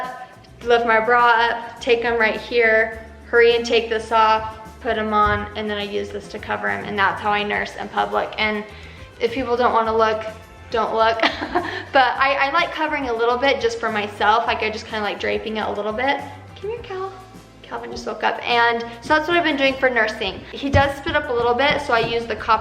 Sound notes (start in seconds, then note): 11.2 chuckles